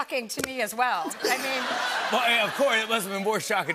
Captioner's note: laughter